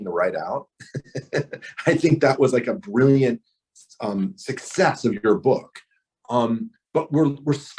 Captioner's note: laughs